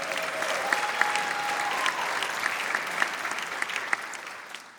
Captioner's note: applause